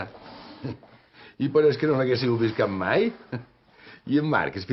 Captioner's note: laughs